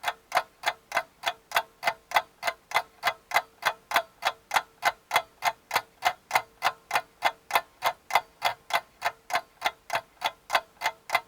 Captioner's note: sound of clock ticking